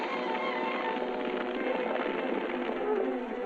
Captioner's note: flames crackling